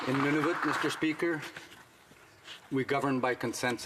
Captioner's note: some Applause